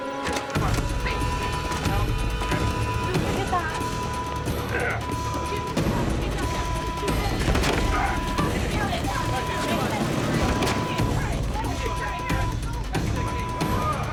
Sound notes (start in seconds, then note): 8.7 clamoring